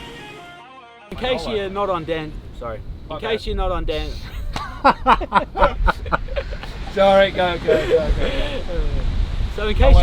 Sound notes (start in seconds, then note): 4.2 laughing